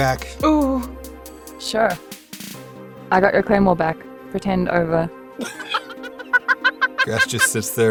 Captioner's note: cackles